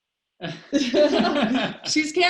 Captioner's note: laughing